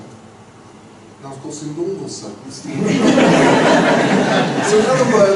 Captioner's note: laughter